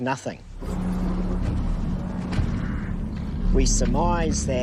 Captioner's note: tense music; feet thumping